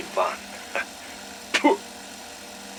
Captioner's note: spits